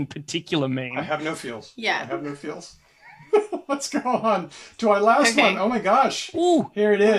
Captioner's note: laughs